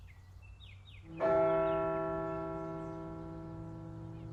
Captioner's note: bell rings